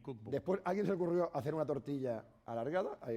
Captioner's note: speaking spanish